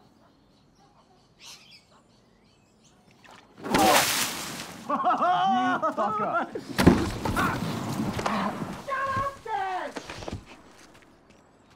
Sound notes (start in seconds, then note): 0.0 birds chirp; 0.1 dog barks; 3.2 water splashes